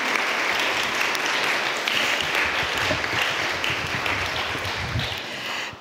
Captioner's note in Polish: oklaski